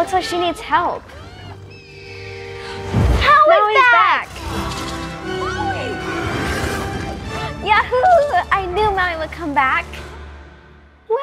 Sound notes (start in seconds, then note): 2.1 hawk screams; 5.3 Te Ka screams